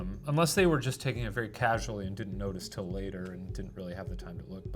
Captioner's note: none